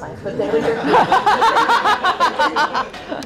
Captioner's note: laughter